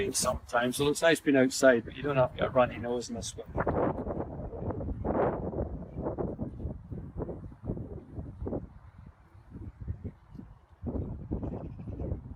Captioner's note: extreme wind noise